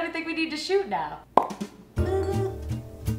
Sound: popping sound; upbeat music

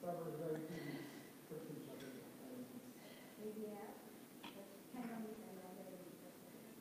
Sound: interpreters speaking in foreign language

